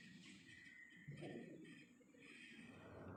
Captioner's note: slides smoothly